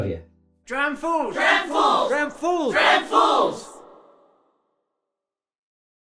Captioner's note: chanting